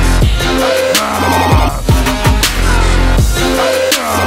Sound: growling

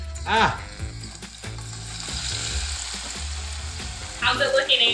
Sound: oil sizzling

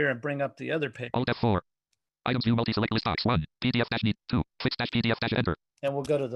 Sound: screen reader reads fast

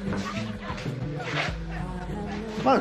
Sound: shoes scraping against the floor

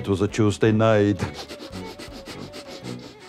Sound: laughs

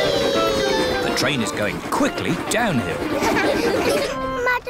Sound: laughter

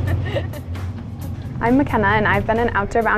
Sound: laughs

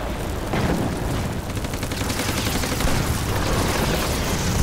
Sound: fire crackling; cannon shots exploding; rapid gunfire exploding

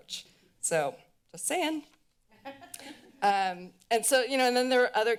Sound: laughter

